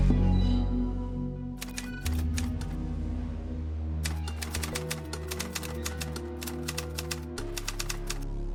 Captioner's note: sound of typing